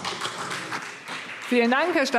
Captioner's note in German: Beifall CDU